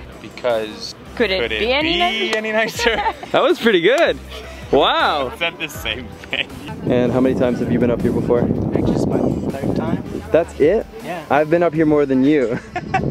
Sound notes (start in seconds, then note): 2.6 laughing; 6.1 laughing